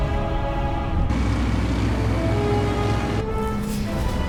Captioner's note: grumbling of plane engines